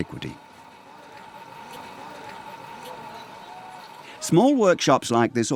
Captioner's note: water boiling